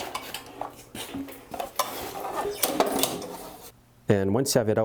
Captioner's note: engine parts clattering